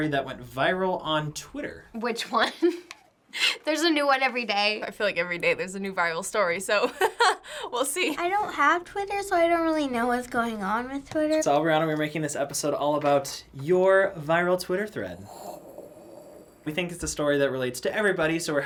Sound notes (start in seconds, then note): 2.4 chuckles; 6.9 laughs